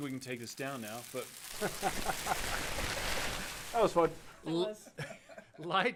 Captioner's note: crumpling